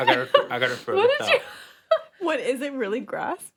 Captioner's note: laughs